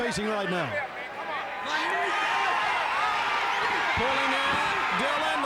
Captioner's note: fans shouting